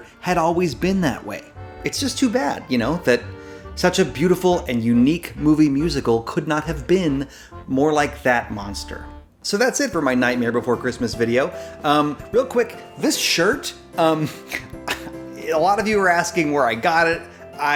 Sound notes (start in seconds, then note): 14.4 laughs